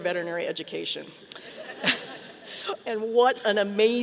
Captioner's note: audience laughing